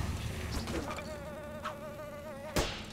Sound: buzzing

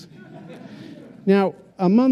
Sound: laughter

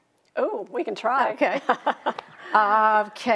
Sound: laughing

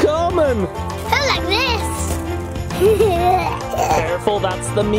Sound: laughs

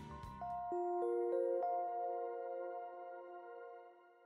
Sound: soothing sound

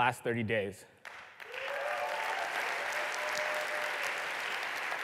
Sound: applause

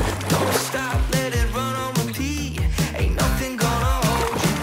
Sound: splashes

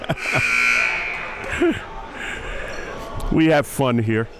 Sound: laughing; buzzer dings; whistle blows

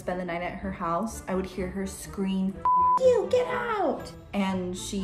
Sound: beep

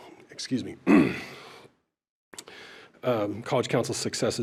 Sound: clears throat

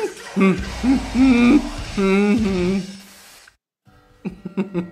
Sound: laughs/ makes whining noise; moans/hums; laughs

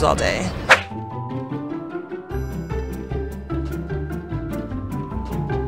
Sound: swooshing; upbeat, melodic music

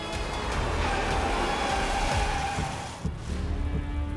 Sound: tires screeching

